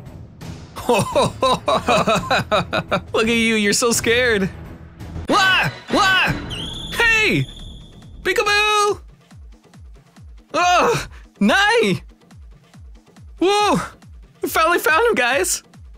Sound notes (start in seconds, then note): 0.8 laughs while being scared; 5.0 shout